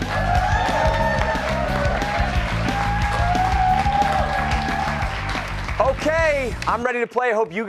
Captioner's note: cheers and applause